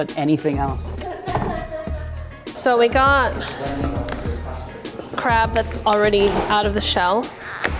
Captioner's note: laughs